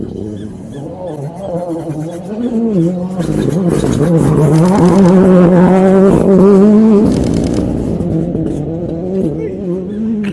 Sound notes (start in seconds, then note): 1.8 rally car sounds